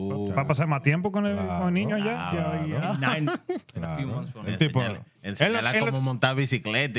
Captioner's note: laughter; speaking Spanish